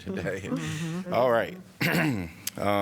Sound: laughter

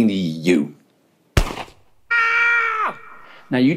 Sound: shot and scream

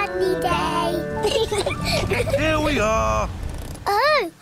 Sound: both laugh

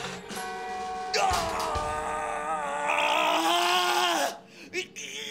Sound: more grunting

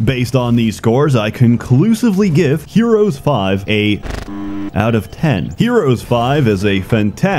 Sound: visual and audio glitch

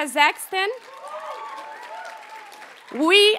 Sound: audience applauds and cheers

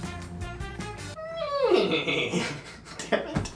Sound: neighs

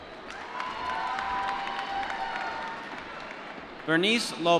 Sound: applause

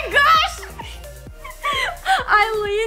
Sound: laughs

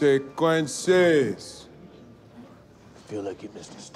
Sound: students chattering

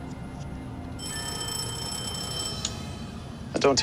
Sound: ringing

